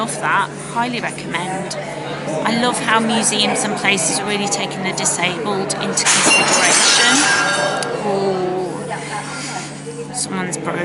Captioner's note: plates crash in background people go oooooh